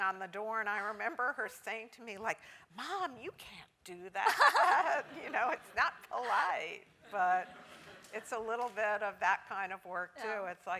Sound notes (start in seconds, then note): 5.1 laugh